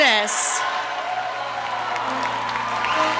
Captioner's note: applause